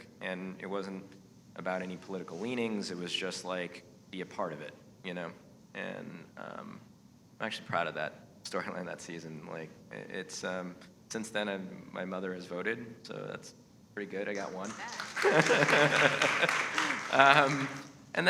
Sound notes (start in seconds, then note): 14.9 laughs; 16.2 audience applauding